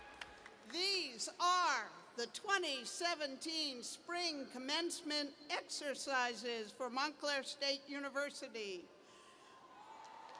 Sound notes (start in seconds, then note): 8.2 cheers